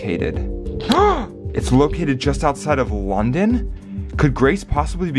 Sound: gasp

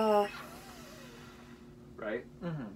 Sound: blowing air

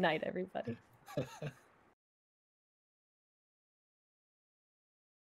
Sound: chuckles

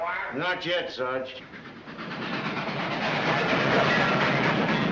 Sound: train chugging

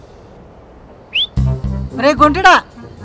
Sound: lady whistling

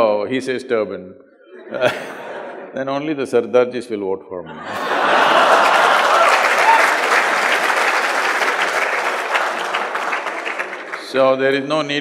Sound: laughter; laughs; laughter/Applause

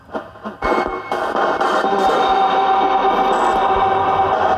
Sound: static buzzing

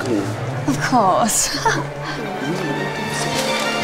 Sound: laughs

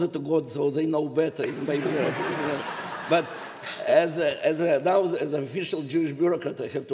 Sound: laughter

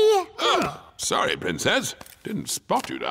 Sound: all gasp

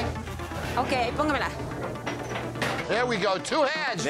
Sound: speaking spanish

